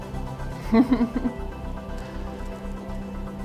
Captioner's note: laughs